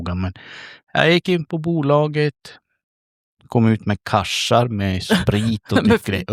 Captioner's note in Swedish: skratt